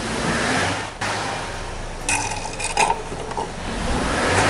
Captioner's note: loud machinery sound